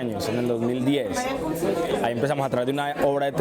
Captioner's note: Parloteo indistinto